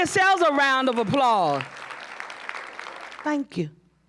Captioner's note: applause